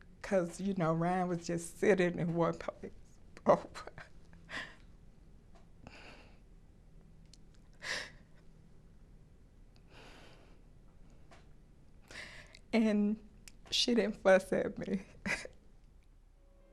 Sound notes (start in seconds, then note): 7.8 sighs